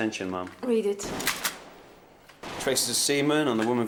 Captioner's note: guns firing